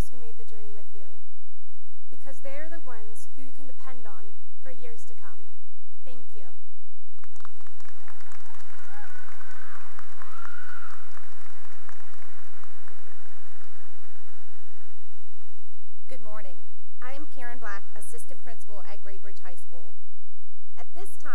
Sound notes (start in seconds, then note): 7.2 cheering and applause